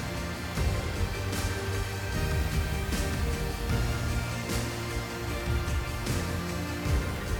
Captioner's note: blower whooshing; gentle upbeat music